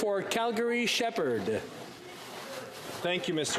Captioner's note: speaking French